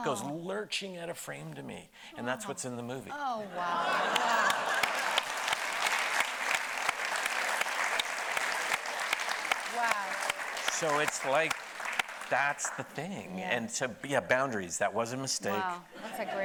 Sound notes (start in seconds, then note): 3.9 and audience applauding